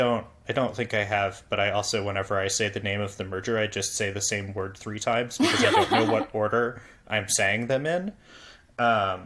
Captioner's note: laughs